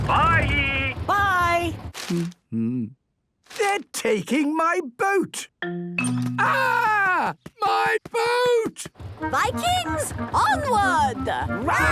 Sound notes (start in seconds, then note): 2.1 humming